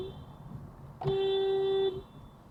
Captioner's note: pls-don't-back-into-me-honk